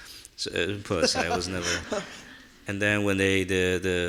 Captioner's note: laughing